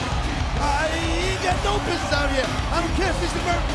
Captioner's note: presenter speaking faintly off mic